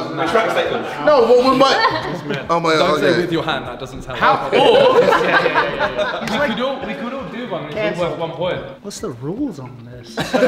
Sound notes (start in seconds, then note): 4.4 laughing